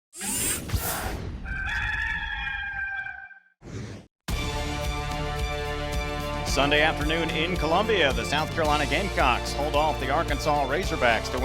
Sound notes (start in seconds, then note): 1.4 rooster crowing; 4.4 competitive music